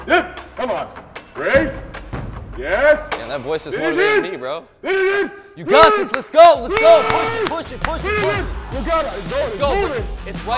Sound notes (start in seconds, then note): 6.6 clapping